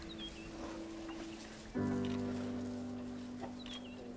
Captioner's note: speaking native language